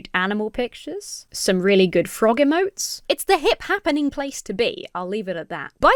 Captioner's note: none